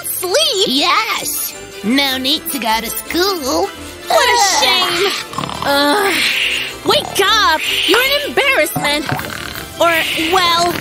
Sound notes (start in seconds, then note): 4.7 loud snoring; 4.9 keeps snoring